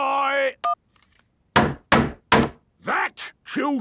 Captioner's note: hammering